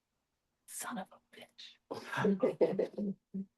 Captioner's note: laughter